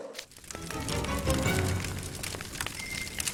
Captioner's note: stove crackling